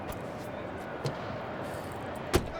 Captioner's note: none